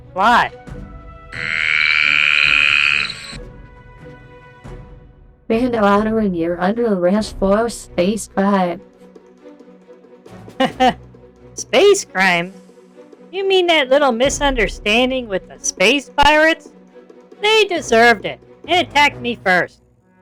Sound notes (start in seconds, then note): 10.6 laughs